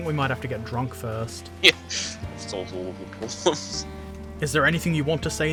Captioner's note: laughs